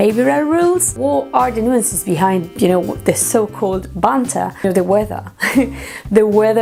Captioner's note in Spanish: risas